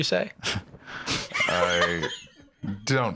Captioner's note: laughs